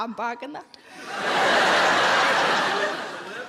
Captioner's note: audience laughs